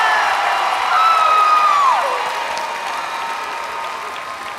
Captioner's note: all cheers